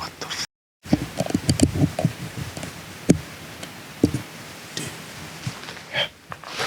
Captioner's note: whispers